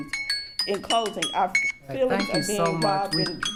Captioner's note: timer chimes